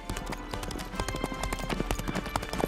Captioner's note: horse galloping